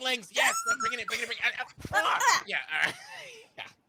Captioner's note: murmurs